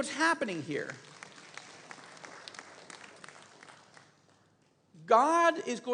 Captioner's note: congregation applauds